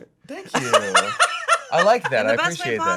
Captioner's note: laughing